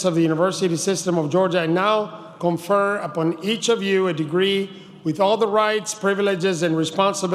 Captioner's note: none